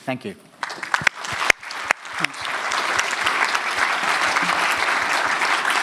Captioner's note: audience applauding